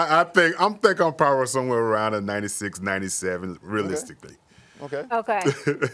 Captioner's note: laughter